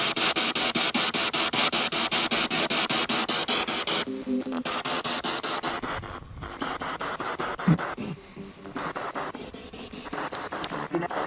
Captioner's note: radio noise from the spirit box